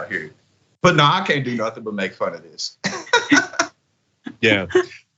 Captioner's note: laugh